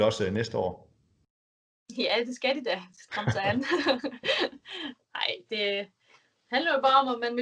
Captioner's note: laughs